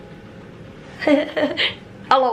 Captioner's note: chuckling